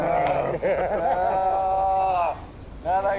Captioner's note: laughter